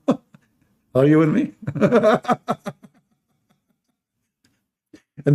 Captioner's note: Ketawa